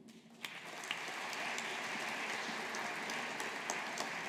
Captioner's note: audience applauding